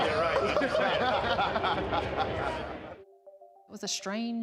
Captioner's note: group laughs